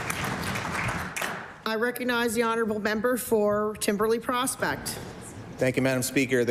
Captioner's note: cheering/Applause